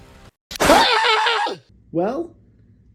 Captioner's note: explosion and Scream